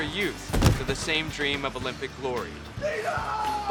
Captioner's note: woman thudding